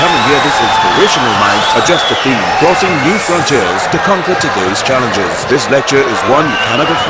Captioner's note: wild applause and cheering for 22 seconds